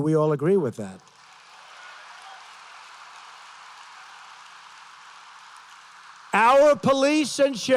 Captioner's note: applause